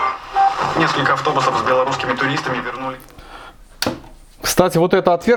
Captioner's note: news station is playing